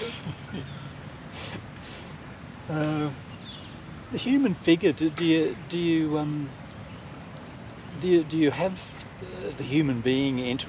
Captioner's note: both laugh